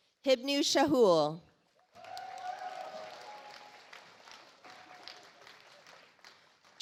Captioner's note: audience applauds